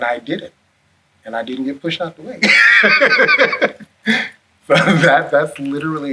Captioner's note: laughs